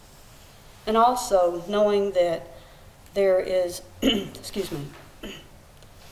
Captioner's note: clears throat